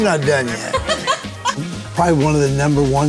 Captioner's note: laughing